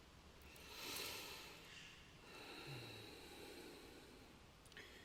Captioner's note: deeply breathing